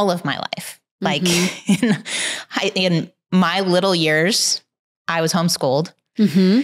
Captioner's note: chuckles